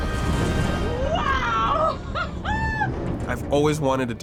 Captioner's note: laughing